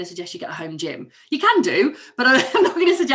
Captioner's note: laughs